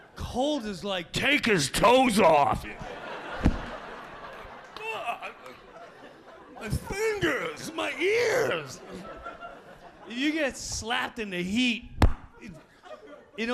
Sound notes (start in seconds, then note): 3.0 audience laughing; 3.3 foot stomps; 4.8 Jim moaning; 8.4 audience laughing